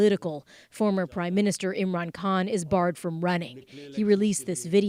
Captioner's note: speaking alternate language